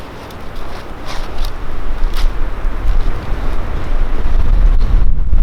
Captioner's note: branches cracking